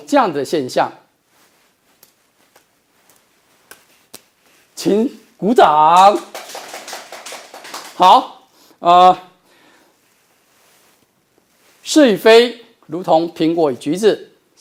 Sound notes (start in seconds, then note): 5.8 applause